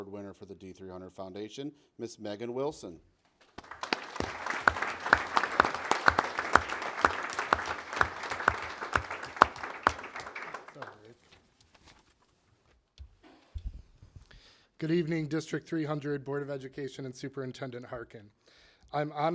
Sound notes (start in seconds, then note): 3.4 applause